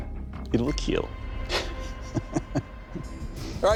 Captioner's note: laughs